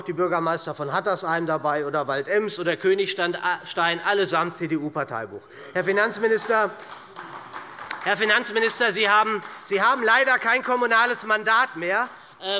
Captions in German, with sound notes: die Bürgermeister von Hattersheim, Waldems und Königstein, die allesamt ein CDU-Parteibuch haben. [Beifall bei Abgeordneten der SPD] Herr Finanzminister, Sie haben leider kein kommunales Mandat mehr.